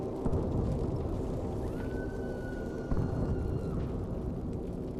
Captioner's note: woman's scream in distance